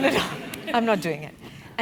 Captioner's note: laugh